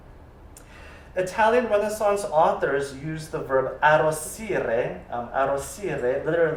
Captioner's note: italian